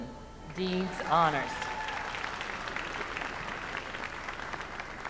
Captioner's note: names being called